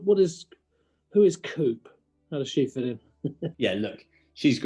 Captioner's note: chuckling